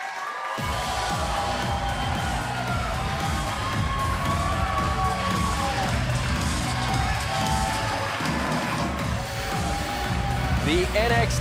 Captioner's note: crowd cheering